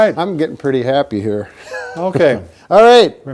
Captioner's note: laughs